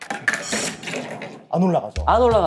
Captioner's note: marble stops rolling on the rail